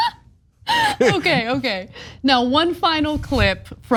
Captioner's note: laugh